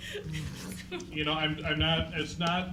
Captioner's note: laughing